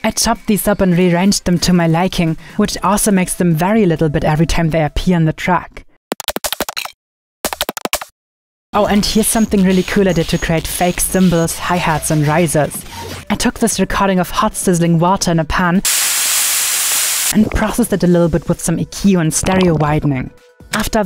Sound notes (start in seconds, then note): 6.1 upbeat music; 15.8 hissing